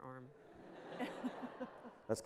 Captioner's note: laughter